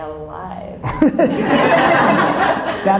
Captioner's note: audience laughs